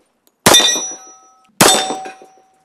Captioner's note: bang